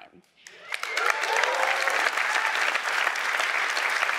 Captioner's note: audience applauds